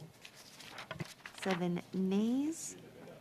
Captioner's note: speaking French